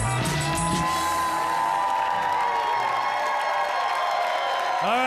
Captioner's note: audience cheering